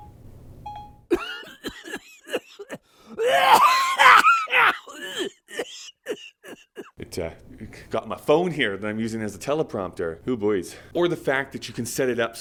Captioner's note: coughing sound effect plays